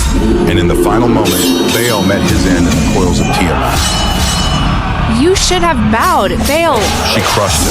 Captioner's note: coldly